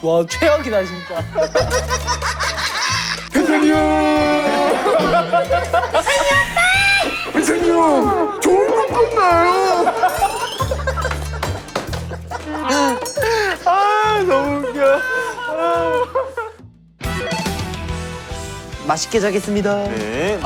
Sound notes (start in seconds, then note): 4.9 big laugh; 7.4 big laugh; 9.9 laughter never ends; 12.4 never-ending laughs